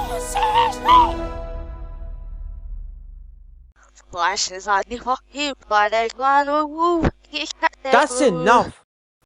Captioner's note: gasp!